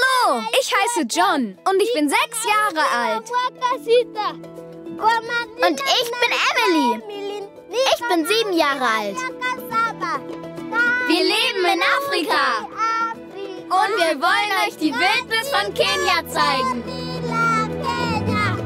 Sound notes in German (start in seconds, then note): 4.9 in ihrer Sprache